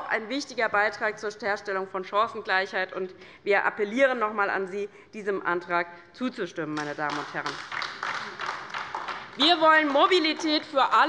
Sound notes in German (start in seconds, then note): 6.8 Beifall bei der LINKEN